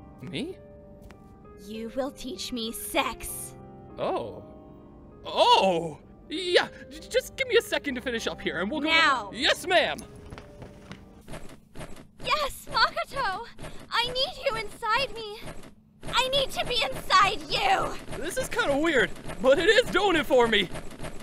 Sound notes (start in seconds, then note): 10.0 mattress creaks; 15.3 mattress creaks rapidly